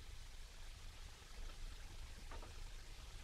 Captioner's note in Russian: none